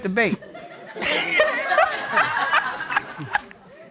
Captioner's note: all laughing